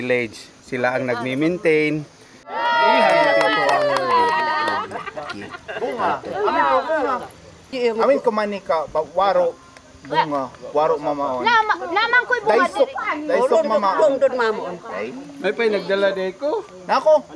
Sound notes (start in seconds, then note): 2.4 cheers